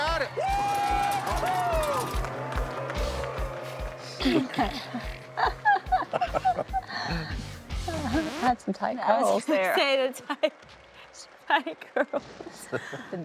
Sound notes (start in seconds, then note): 4.2 laughter